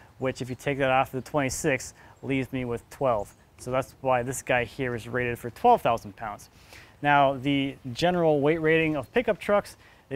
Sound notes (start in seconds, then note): none